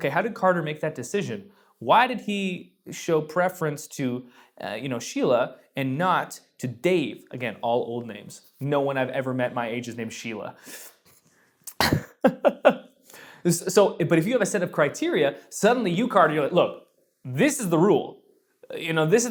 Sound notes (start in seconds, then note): 12.1 laughs